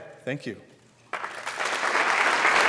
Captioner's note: applause